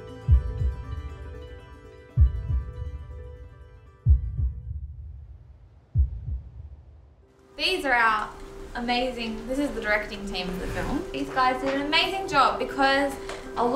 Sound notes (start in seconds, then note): 4.0 a heartbeat